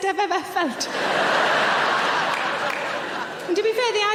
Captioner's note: audience laughing